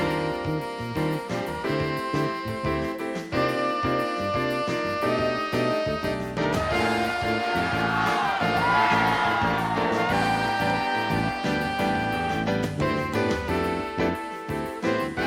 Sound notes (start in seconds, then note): 6.5 cheering; 12.8 quick jazz music